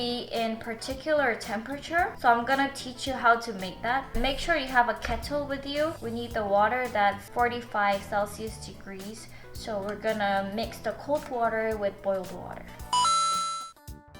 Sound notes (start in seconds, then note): none